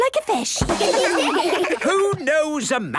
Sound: children laugh

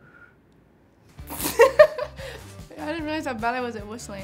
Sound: blows air; upbeat music; laughs

